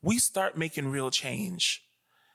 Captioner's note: none